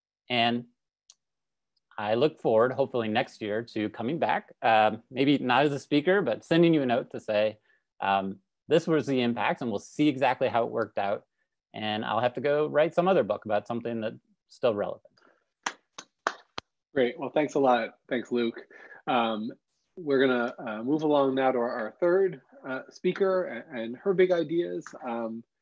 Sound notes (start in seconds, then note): 15.6 claps